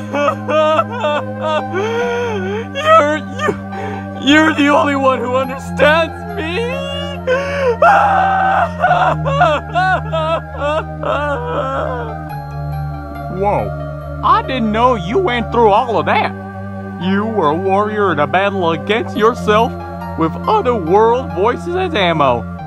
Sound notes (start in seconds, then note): 0.0 intense sobbing; 3.9 in a sobbing voice; 11.7 wails